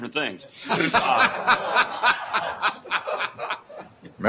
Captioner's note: laughter